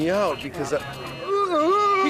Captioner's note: buzzer; gasping